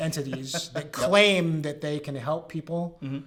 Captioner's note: laugh